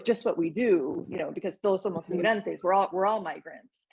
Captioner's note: speaking Spanish